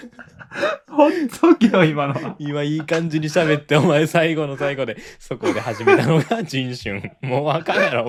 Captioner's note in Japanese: 笑い